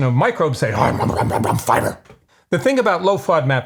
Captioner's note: munching